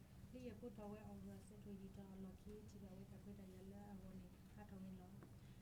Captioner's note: speaking in foreign language